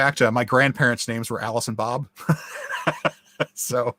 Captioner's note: laughs